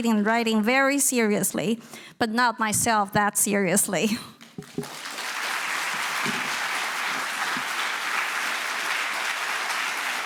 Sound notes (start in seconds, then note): 4.6 audience applauding